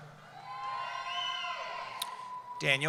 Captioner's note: cheering